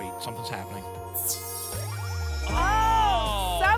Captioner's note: glittering sparkle sound